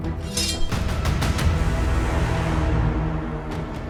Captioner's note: sword clinks